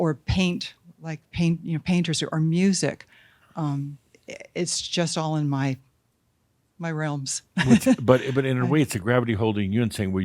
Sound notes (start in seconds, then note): 7.5 she chuckles